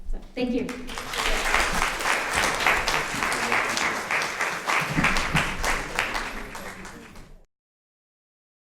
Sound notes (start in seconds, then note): 0.7 audience applauds; 1.4 speaking faintly